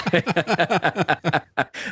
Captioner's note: both Laughing